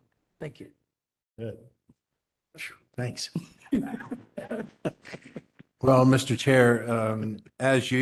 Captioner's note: laughter